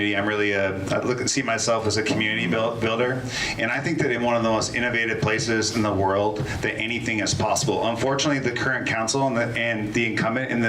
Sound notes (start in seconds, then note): none